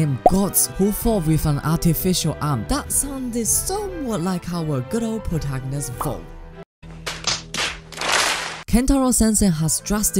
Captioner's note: slap